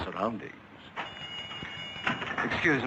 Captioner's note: door bells jingling